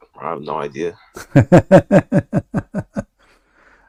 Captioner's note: Ketawa